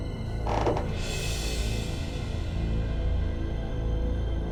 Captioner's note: creaking; ominous music